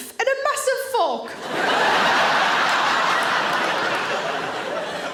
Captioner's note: audience laughing